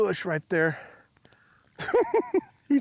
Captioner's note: laughs